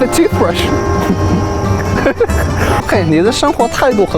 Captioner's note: laughter